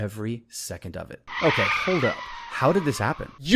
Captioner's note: tires screech